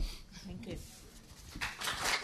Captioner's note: applause